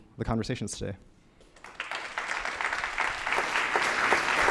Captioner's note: applause